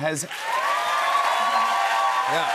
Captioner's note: cheers and applause